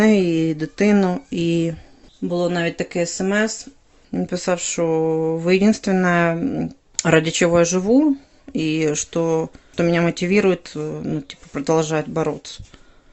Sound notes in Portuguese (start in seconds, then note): 4.7 russo